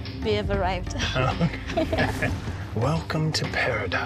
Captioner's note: both chuckle